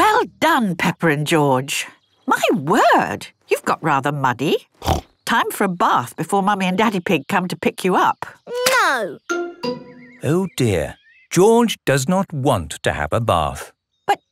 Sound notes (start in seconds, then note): none